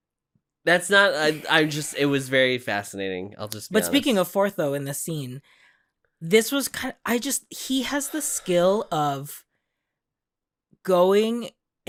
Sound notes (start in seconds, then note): none